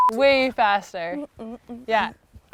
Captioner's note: beep